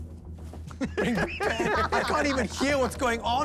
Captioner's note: laughing